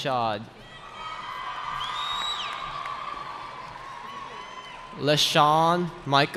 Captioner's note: cheering